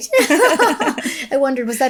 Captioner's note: chuckling